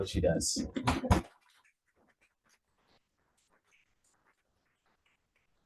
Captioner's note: audience applauding